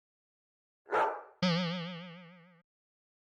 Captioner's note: bark! boing